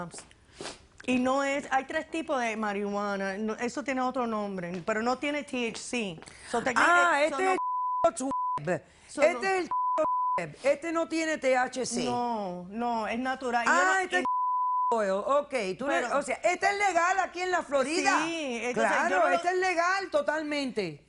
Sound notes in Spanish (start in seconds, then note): 9.6 Bip; 14.2 Bip